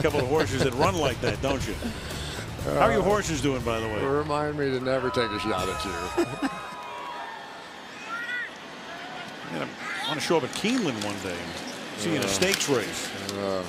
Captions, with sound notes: because you've got a couple of horses that run like that, don't you? How are your horses doing, by the way? Remind me to never take a shot at you. [laughs] You know, I want to show up at Keeneland one day and see you in a stakes race.